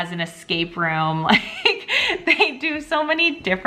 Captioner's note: chuckling